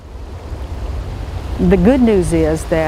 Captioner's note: sound of water